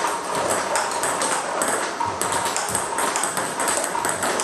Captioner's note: ball ping pong hitting continues